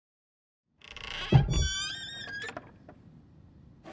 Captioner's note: lid creaks